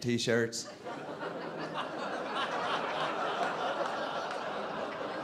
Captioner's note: audience laughing